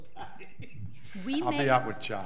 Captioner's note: laughing